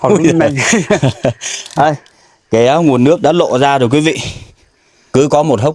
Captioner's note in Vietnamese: tiếng cười